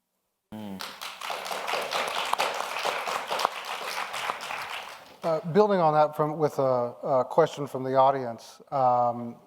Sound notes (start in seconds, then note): 0.6 audience applauds